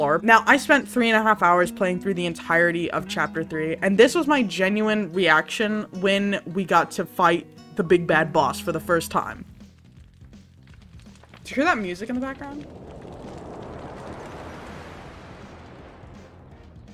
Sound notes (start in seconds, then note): 11.9 wind whooshes